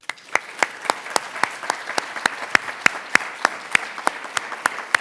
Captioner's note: audience applauding